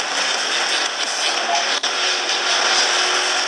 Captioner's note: gameplay sounds